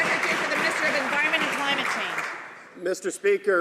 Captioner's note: some Applause